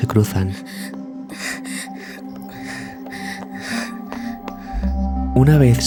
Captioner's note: quick steps